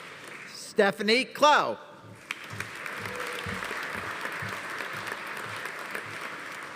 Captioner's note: audience applauding